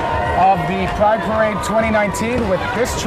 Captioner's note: crowd0a-♪ cheering